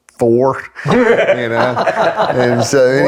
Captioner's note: laughs